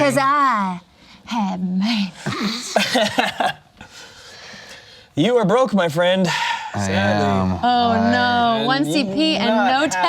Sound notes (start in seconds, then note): 2.4 laughs; 6.7 sighs